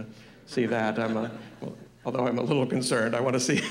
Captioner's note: laughter